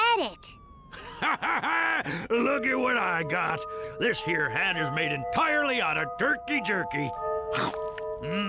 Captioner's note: The Warden laughs